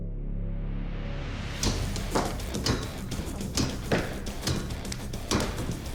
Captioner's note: chopping sound